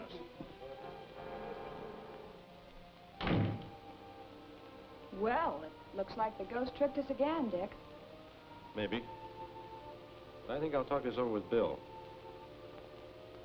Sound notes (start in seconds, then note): 0.2 crowd chattering; 3.2 door slams